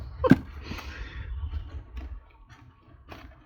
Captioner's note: laughs